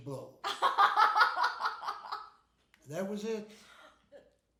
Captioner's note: laughing